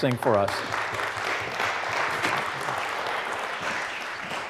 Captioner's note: applause